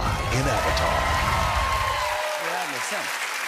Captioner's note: cheers and applause